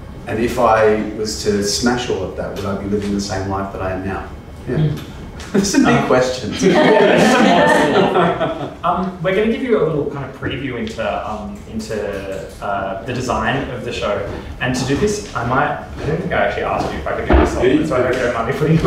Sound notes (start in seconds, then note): 6.4 laughs